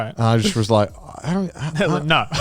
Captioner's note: laughs